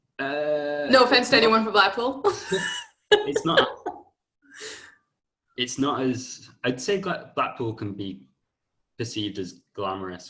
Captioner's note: laughter